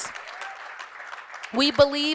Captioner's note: applause